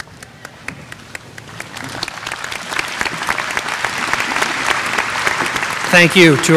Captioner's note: applause